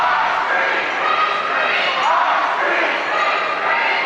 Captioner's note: crowd